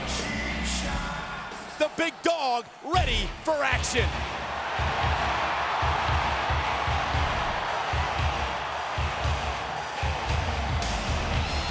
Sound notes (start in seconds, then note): 5.1 crowd cheering; 5.1 upbeat rock music